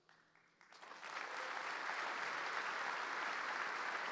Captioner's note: audience applauding